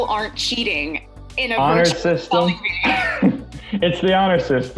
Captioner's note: laughs